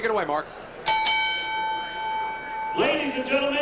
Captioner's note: bell rings